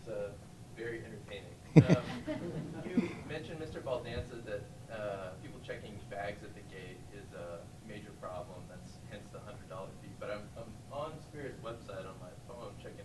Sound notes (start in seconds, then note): 1.7 group laughing